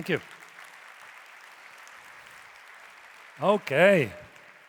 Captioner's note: audience applauding